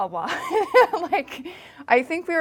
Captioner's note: laughing